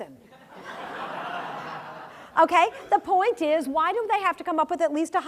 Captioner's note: laugh